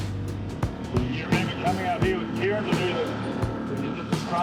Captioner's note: none